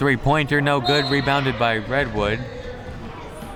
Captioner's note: whistle